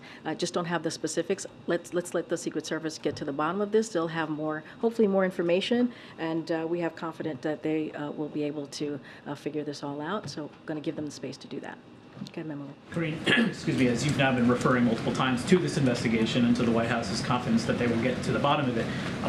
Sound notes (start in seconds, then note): 13.0 coughs